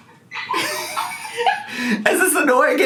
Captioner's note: laughing